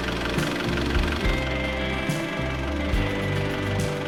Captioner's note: motor running